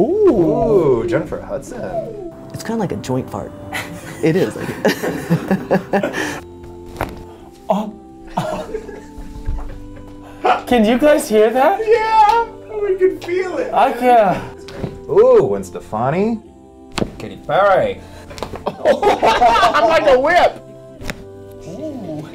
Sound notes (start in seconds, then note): 0.0 bones cracking; 4.5 laughter; 6.8 bones cracking; 14.8 bones cracking; 16.9 bones cracking; 21.0 bones cracking; 21.6 laughs